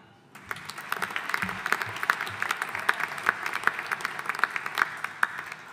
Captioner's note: audience applauding